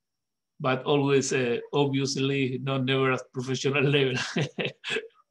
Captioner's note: laughs